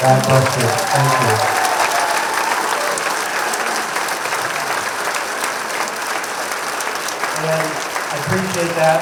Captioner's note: applause